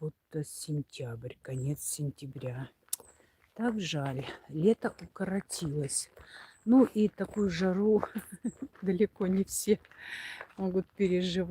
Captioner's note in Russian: смех